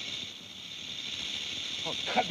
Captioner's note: snake rattles